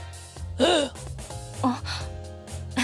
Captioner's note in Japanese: あえぎ!